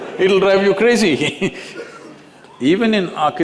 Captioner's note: laughs